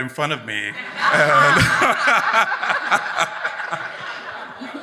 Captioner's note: everyone laughs